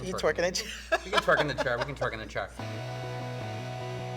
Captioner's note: laughing